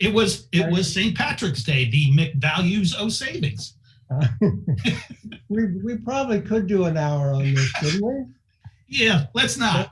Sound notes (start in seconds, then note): 4.2 laughing